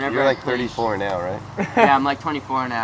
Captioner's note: laughs